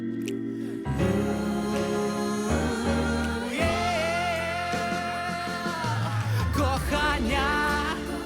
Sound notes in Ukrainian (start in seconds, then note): 0.9 оплески